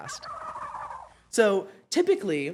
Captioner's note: turkey gobble sound